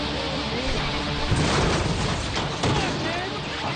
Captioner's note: car cranks and clangs